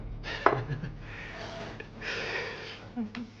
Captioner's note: chuckling